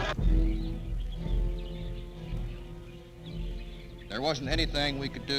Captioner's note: birds chirping; tense orchestral music